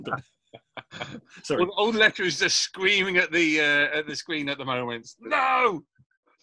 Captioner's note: all laugh